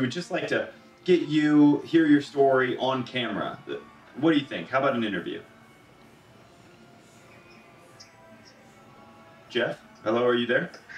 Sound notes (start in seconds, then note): 6.8 silence on phone